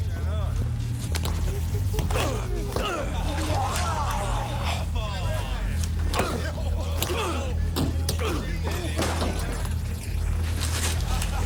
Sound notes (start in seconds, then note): 1.3 grunting; 1.9 man retches; 5.2 crowd; 8.2 grunting; 10.8 spectator laughing